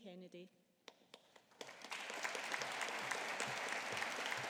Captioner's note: audience applauding